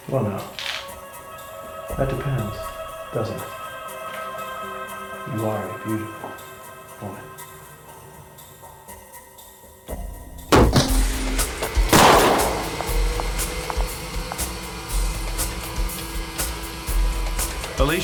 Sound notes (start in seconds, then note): 10.5 ax chops; 11.8 gun fires